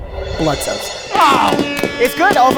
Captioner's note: grunts; fireworks explode